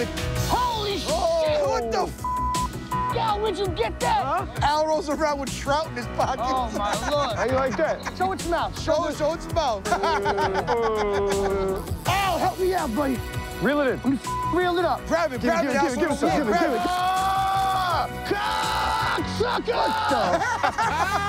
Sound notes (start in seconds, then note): 9.5 groaning; 9.8 laughs; 19.4 laughs